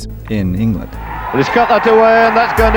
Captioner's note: crowd cheers